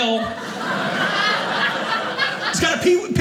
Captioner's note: audience laughing